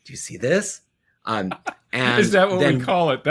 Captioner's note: laughs